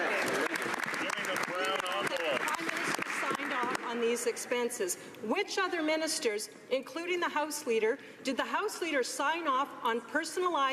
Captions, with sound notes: HELP HIMSELF AND HIS FRIENDS AT THE EXPENSE OF THE CANADIAN TAXPAYER. [ Some Applause ] THE PRIME MINISTER SIGNED OFF ON THESE EXPENSES. WHICH OTHER MINISTERS, INCLUDING